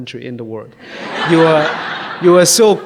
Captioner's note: audience laughs